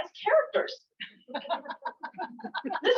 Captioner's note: laughter